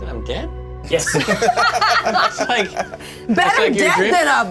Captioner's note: laughter